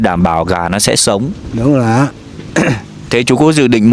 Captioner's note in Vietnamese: hắng giọng